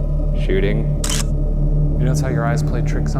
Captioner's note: camera shutter clicking